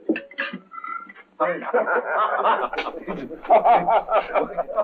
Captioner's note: all laughing